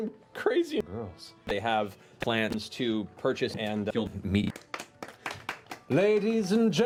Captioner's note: applause